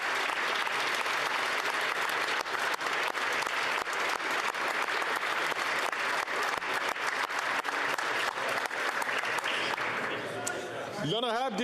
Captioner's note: some Applause